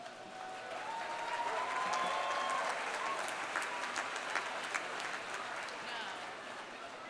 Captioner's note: audience applauding; audience cheering